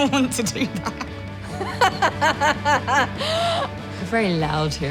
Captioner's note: laughing